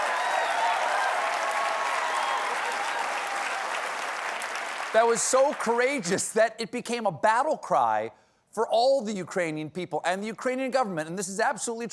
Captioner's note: cheers and applause